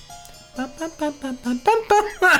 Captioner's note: hums